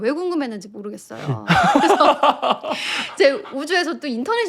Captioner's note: snicker